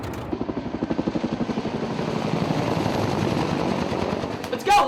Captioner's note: sound of helicopter rotors